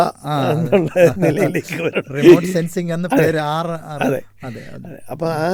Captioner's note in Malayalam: പൊട്ടിച്ചിരി